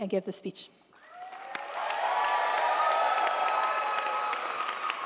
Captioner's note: crowd cheering